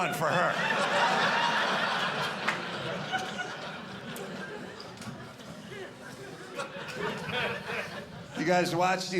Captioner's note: audience laughing